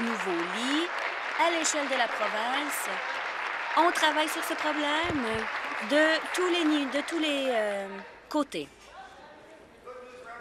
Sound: applause

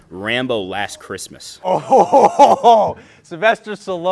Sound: chortles

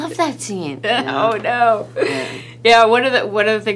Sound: laughing

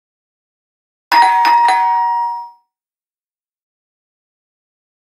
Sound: sound of doorbell

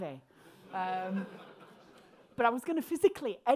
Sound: crowd laughing

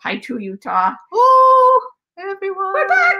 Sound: shouts

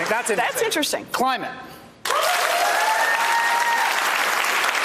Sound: applause

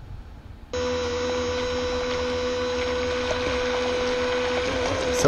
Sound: engine whirring

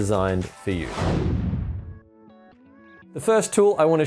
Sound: swoosh

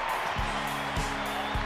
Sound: cheering

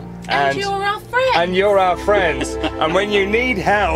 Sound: chuckles

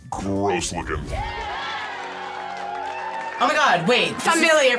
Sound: group cheers

